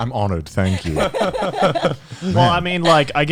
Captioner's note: all laughing